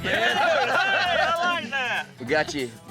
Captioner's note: everyone laughing